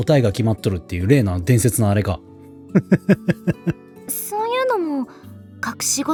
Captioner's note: laughs